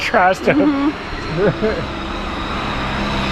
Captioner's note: chuckles